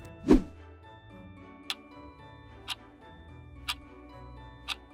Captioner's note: clock ticking